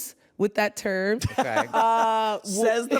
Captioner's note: laughs